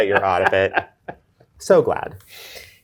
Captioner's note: guy laughs